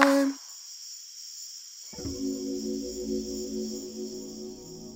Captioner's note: chiming sound